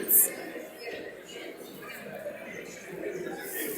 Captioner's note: audience mumbling